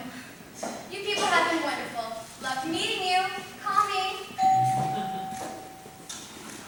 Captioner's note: elevator rings